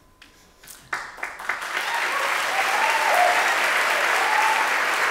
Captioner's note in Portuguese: Aplausos